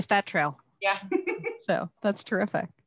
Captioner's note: laughs